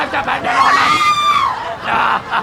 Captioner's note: laughs